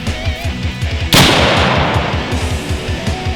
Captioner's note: gunshot